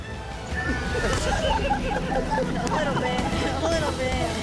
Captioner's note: laughter